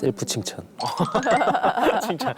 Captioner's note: laughing out loud